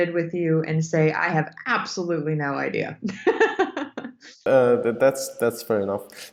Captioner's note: laughs